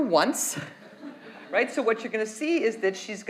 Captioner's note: audience laughs